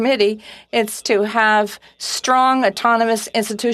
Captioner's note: speaking French